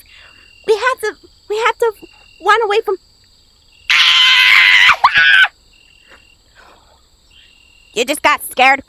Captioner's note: screaming